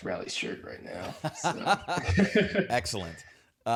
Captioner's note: laughter